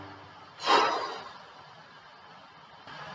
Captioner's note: deflating human noises